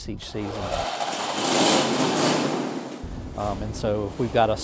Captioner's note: engine whirring